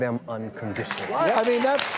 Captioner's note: clapping